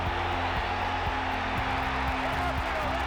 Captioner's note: audience cheering